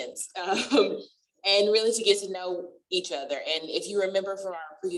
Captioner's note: laughter